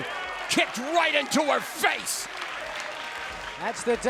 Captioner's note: crowd applauds